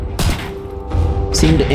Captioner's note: gunshots